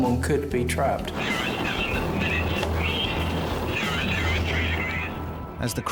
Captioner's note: radio